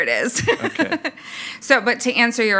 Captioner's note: chuckles